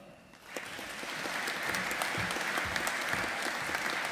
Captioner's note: audience applauding